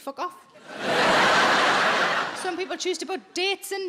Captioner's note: audience laughs